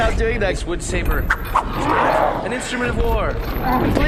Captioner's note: Shmorby stammers unhappily; sounds of Pleck swinging the woodsaber around